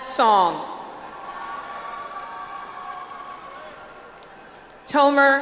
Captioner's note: audience applauds